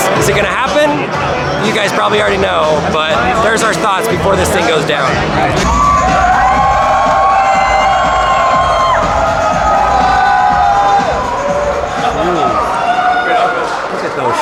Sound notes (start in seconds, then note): 5.9 crowd cheers; 11.9 Elon laughs